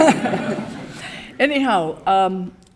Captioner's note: audience laughing